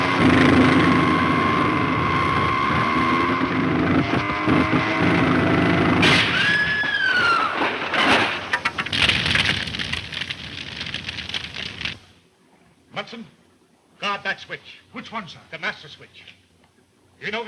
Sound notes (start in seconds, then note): 1.7 plane engine sputtering; 6.1 plane crashing; 6.4 Mary screams; 8.1 car crashes; 9.3 fire crackling